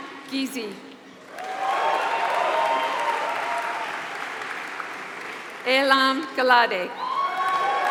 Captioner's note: applause